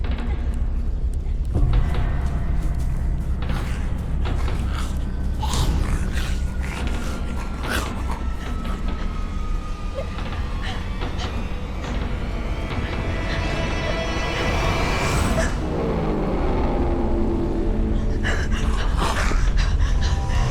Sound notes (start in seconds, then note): 5.2 grumbling; 14.5 dramatic music; 17.5 heavy breathing